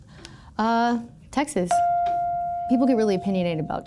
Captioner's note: chime pings